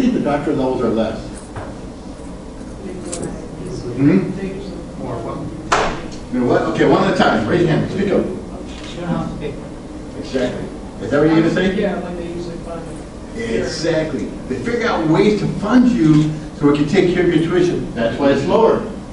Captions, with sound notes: Why do you think the doctoral levels are less? (class murmurs) Alright, one at a time, raise your hand, speak up. They don't have to pay for it. Exactly, is that what you were gonna say? Yeah, like they usually fund 'em. Exactly, they figure out ways to fund you so that should take care of your tuition,